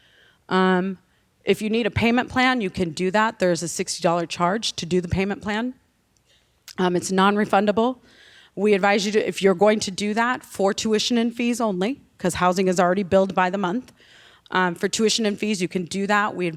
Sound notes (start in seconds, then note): none